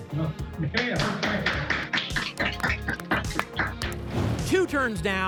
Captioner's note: applause